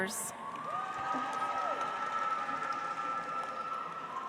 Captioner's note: audience applauds